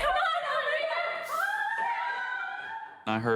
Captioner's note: screaming